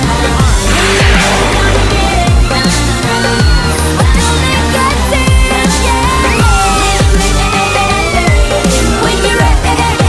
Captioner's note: Sweet Polly Screams